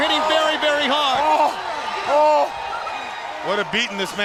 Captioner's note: Ric groaning